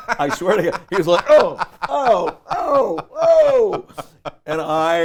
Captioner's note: laughs